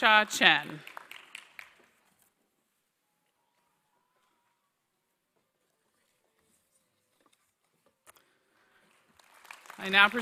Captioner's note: applause